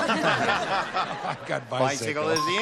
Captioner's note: laughter